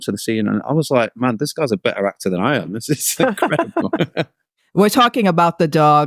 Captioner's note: laughing